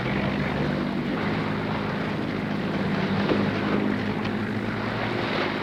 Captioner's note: boat propeller